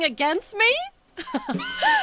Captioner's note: laughing